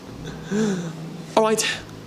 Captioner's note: gasps